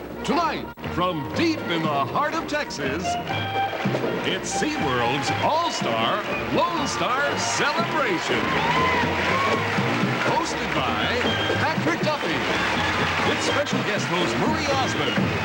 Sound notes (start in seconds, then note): 4.8 crowd begins to cheer; 9.1 cheering